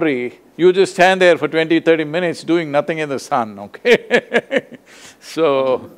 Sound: laughs

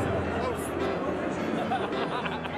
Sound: laughs

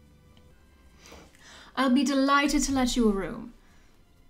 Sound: light Irish accent

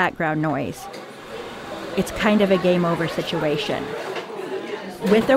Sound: coffee shop sounds; voice starts to sound increasingly garbled

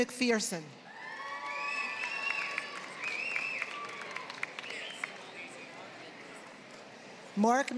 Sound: applause; applause

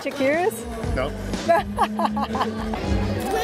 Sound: laughs

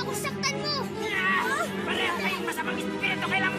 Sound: shouts

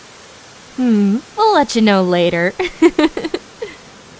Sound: laughs

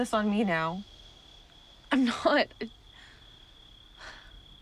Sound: sighs

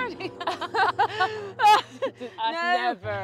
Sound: nervous laughter

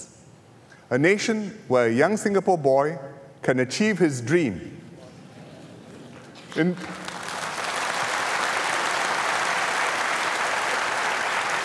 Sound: applause

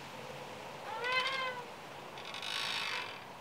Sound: swing creaks

